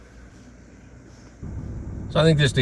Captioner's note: car engine revving